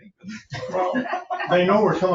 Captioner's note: laughing